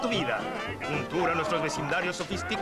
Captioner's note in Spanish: llorando